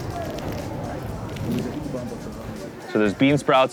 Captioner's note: food crackling